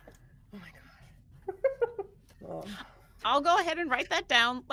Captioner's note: person giggling